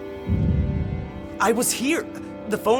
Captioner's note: explosions